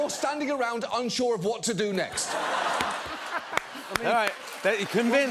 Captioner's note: laughter